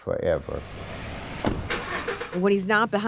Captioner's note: truck engine revving